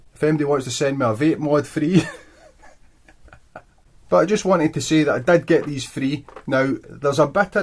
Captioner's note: bursts into laughter